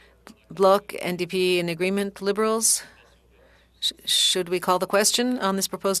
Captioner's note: speaking French